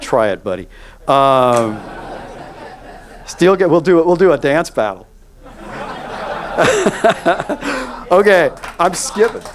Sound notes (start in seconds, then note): 1.4 audience laughs; 5.5 laughs